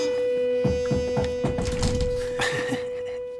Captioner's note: knock on door; chuckles